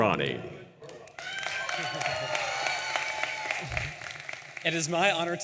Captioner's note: audience applauding and cheering